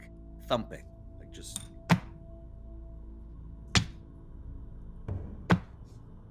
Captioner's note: thumps